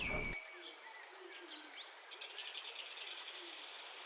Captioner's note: bird Sounds, Calm Music Playing